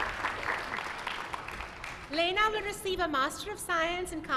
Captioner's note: applause